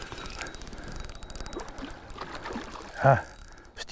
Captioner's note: reel spinning; fish splashing